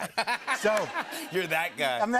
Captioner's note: laughter